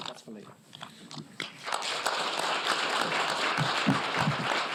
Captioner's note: applause